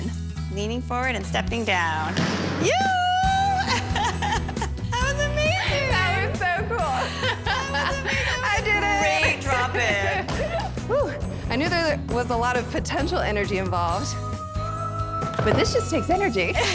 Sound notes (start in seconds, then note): 3.5 laughter